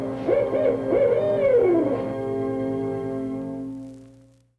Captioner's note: owl hooting